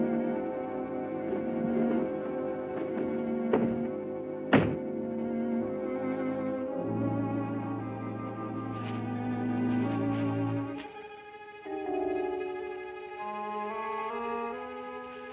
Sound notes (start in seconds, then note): 4.4 thumping